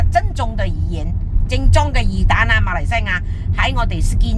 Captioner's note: Cantonese